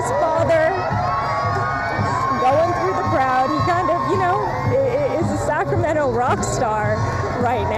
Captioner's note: applause